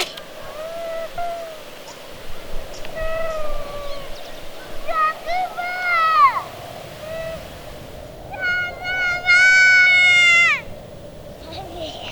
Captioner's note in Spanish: Llanto